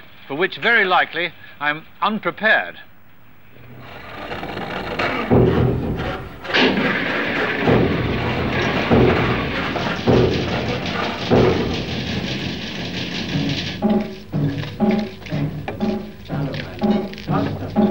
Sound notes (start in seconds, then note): 6.6 clunking mechanics from the lowering of the lift